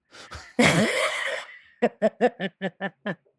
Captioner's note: laughing